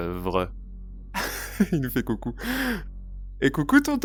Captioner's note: laughs